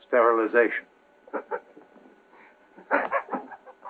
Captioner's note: maniacal laughing